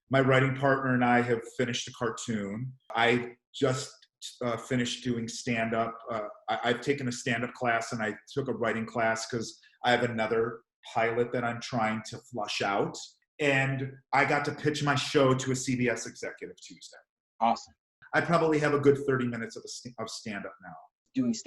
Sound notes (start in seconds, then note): 16.7 murmurs